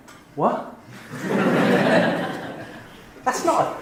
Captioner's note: laughing